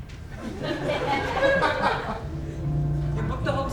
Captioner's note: audience laughs